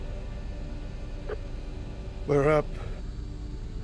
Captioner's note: microphone Clicks